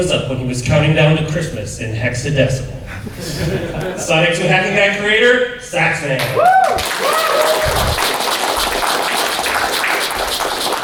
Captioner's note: applause